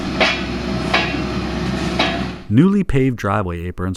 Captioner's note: machine rattling